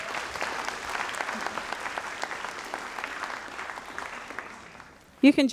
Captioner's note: audience applauds